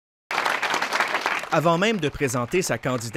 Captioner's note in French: applaudissements